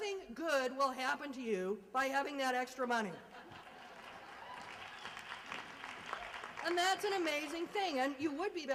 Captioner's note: applause and laughter